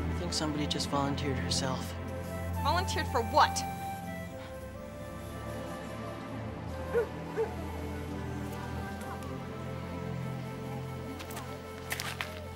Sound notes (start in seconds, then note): 5.4 somber music; 7.3 dog barks